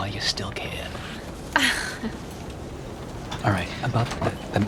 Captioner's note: laughing